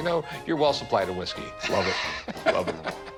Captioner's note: laughing